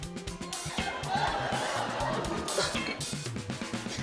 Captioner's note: laughter